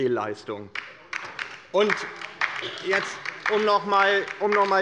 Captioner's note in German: Beifall bei der LINKEN